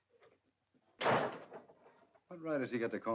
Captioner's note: door slams